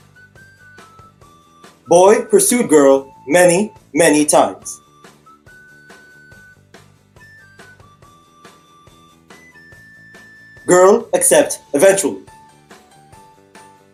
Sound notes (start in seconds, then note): none